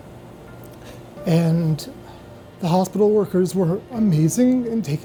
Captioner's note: sighs; sighs